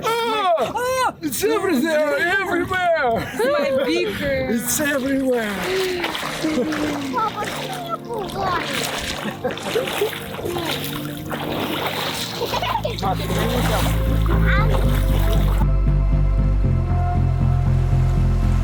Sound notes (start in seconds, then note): 6.2 laughs; 7.0 water splashing; 8.4 laughs; 8.4 speaking foreign language; 11.6 water splashing; 12.3 girl giggling; 15.5 inspiring music